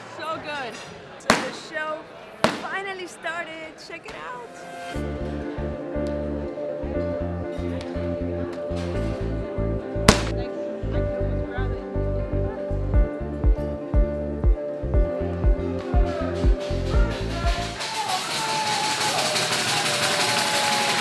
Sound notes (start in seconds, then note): 16.9 clattering and applause